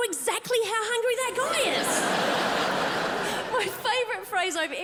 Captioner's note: crowd laughs